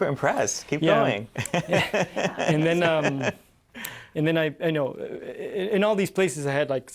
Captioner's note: laughter